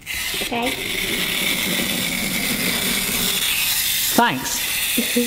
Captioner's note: shaker whirring